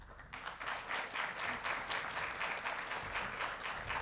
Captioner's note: audience applauding